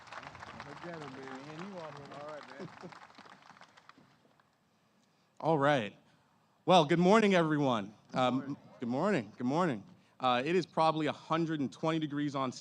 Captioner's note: applause